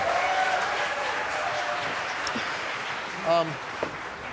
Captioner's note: audience cheering